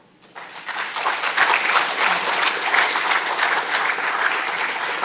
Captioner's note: audience clapping